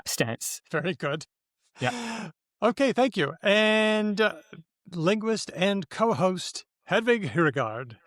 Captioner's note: laughs